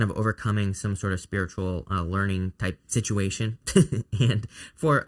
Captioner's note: chuckles